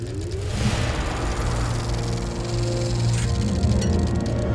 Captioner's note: film projector whirring over rousing orchestral music